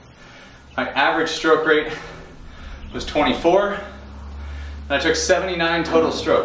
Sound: breathing heavily

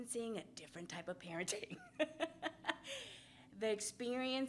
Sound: laughs

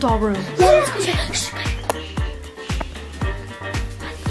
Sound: shushing

